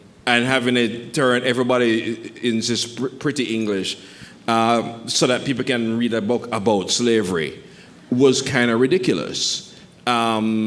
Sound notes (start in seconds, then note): none